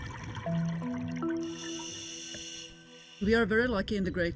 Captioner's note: underwater bubbling noise; playful music